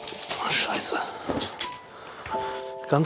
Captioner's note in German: Klappern